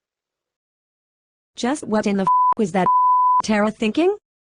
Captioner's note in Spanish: bip; pitido